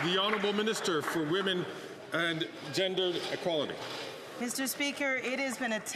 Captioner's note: some Applause